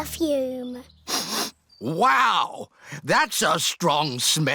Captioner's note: sniffs